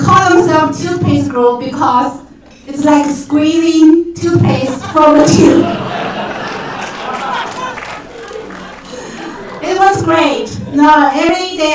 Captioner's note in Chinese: 鼓掌